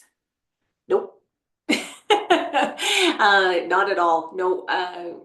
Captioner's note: laughs